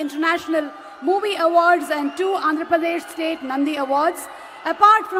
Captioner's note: applause